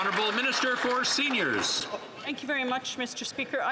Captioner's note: some Applause